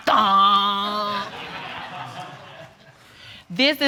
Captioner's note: audience laughing